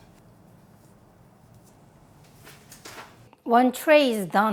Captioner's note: none